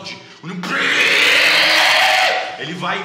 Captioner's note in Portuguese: grito